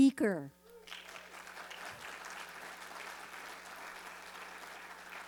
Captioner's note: audience applauding